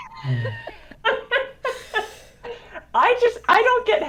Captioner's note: both laugh